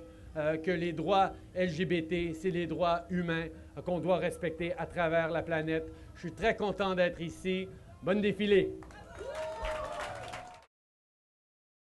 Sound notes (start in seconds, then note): 8.8 applause